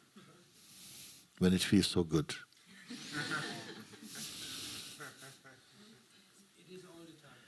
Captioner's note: laughter